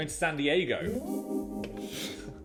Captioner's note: graphic chiming; chuckling